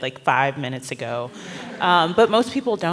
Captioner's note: laughter